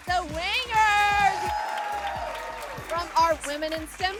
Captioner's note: cheering